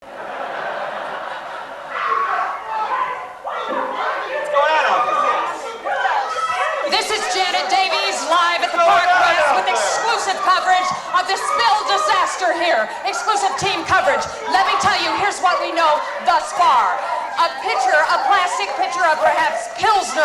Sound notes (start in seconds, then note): 0.0 audience laughter